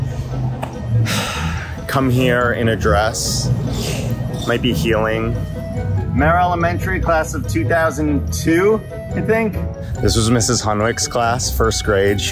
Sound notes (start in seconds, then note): none